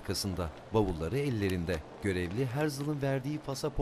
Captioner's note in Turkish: Kâğıt sesi